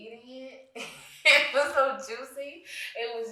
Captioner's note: guffaws